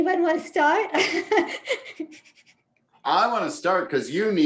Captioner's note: laughs